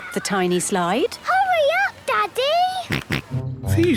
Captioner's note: George snorts